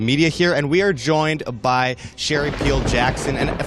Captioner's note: thunder crack